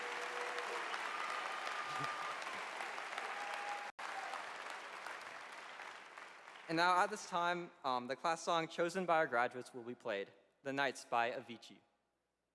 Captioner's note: applause